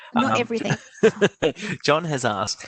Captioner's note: laughs